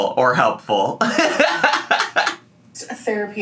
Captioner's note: laughs